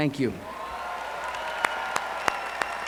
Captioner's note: cheers